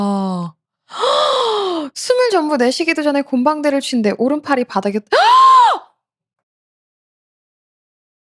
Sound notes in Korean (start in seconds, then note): 0.9 헉 소리; 5.1 비명